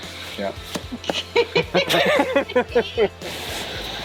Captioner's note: laughs